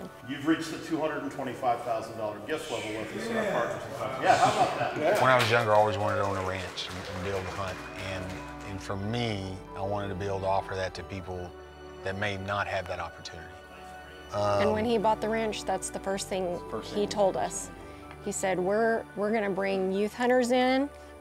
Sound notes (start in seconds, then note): 3.8 crowd gasping; 5.0 applause